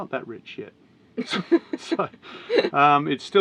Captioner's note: laughs